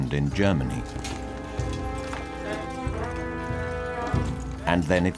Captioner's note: armor rustling